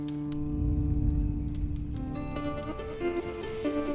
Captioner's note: campfire crackling in background